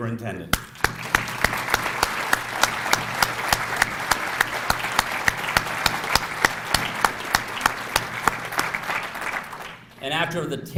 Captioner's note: applause